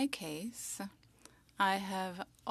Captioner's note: speaking French